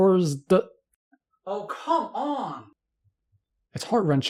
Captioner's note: frustration noises